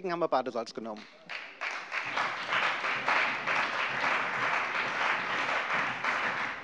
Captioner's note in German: Beifall bei dem BÜNDNIS 90/DIE GRÜNEN und der CDU